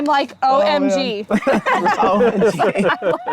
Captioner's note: group laughs